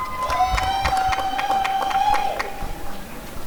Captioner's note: applause and cheering